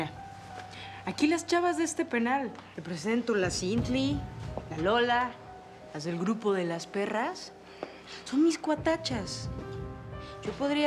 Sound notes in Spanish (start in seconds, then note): none